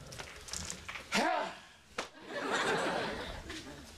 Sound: sighs loudly

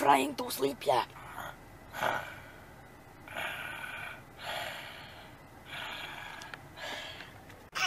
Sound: snoring

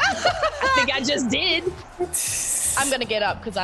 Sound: laugh

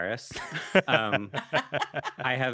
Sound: laughing

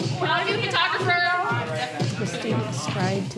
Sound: overlapping chatter

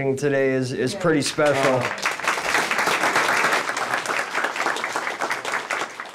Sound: attendees applaud

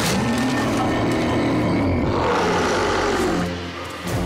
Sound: werewolf growling; werewolf snarling

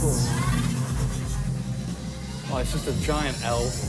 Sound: electronic whizzing

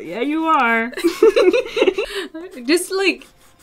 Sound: laughter

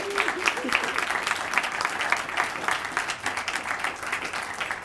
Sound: audience applauds

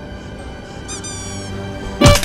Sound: clown squeaks; clown honk; wood breaks

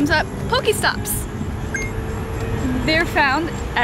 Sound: beep

